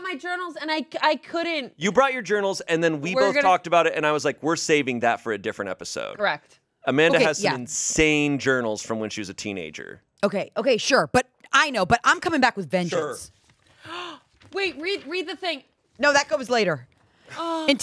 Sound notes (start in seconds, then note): 13.7 gasps